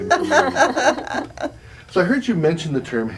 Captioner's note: laughter